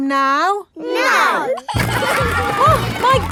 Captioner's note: giggling